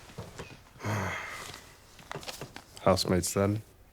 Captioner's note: Nikolai sighing